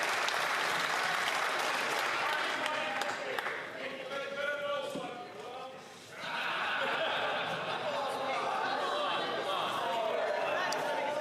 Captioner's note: some Applause